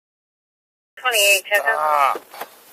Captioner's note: radio chatter